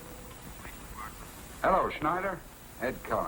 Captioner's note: on phone